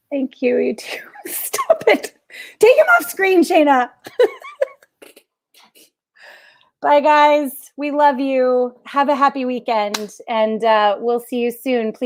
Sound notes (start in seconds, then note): 4.0 laughs